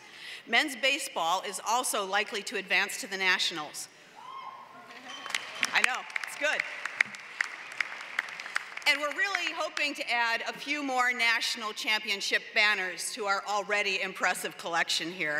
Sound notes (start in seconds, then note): 5.0 applause